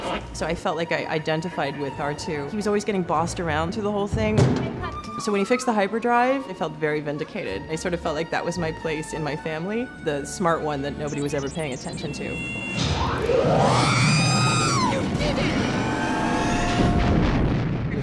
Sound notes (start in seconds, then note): 13.0 r2-d2 squeeling